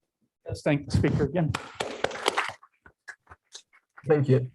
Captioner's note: applause